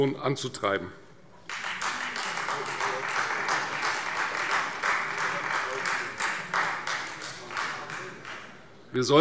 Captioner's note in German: Beifall Freie Demokraten